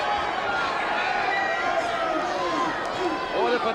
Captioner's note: crowd cheering